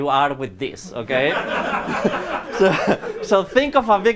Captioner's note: laughter